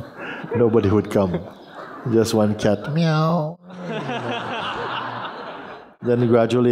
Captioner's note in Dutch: gelach